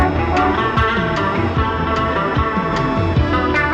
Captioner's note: horn honking